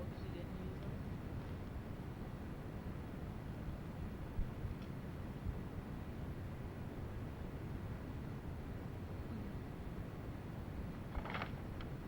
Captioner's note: pages turning